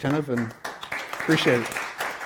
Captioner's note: applause